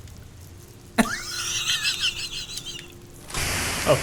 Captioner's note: laughing